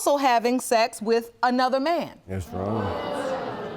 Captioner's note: audience groans